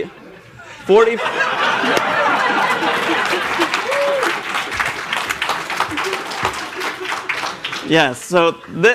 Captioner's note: laughter